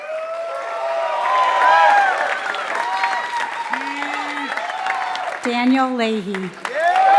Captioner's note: applause